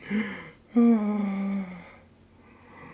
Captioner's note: sigh